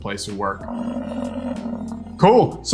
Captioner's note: buffalo grunting